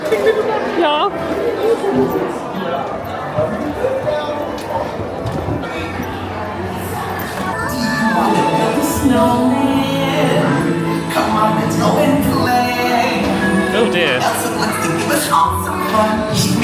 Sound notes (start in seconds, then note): 2.5 background chatter